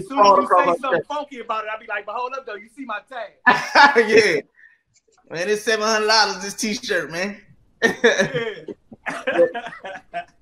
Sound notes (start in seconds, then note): 3.4 laughs; 7.8 all laughing